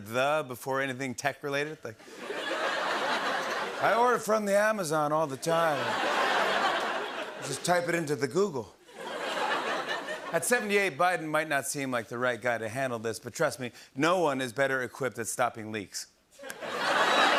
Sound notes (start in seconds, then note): 10.2 normal voice